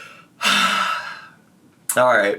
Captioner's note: sighing deeply